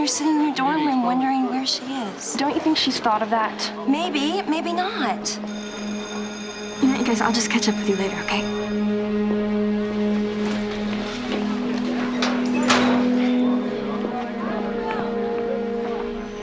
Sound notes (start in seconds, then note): 5.2 bell ringing